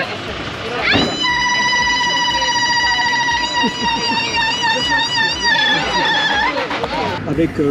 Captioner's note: traditional shout